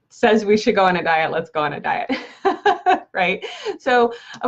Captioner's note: laughs